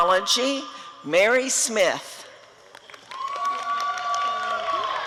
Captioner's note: applause and cheering